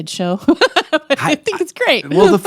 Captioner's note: laughing